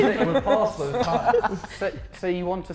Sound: Sidemen laughing

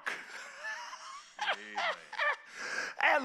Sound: preacher laughing

